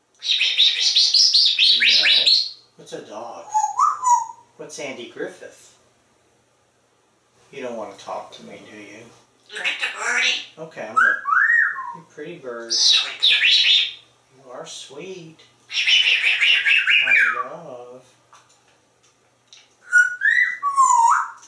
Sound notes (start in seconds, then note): 0.2 whisper Sounds; 3.5 whistle; 11.2 whistle; 13.2 whistle; 15.7 whisper Sounds; 19.9 whistle